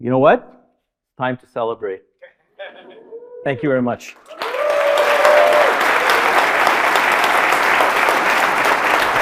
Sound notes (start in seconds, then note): 4.2 audience applauding